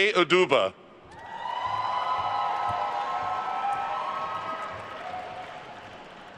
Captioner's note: attendees cheering and applauding